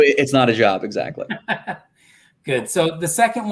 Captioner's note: laughter